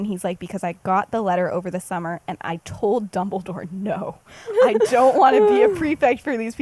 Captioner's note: laughs